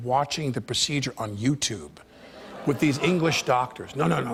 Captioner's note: audience groans